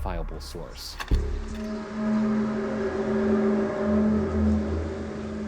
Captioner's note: unidentifiable source blares